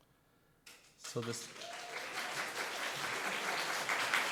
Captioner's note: audience clapping